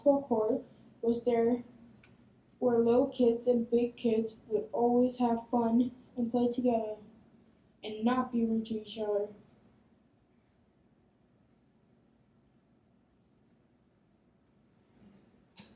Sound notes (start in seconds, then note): none